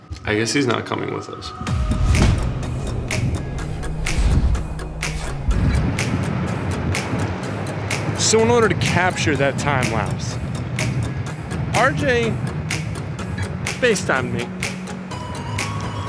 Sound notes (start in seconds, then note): none